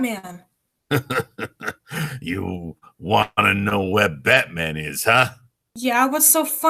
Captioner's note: nasty chuckle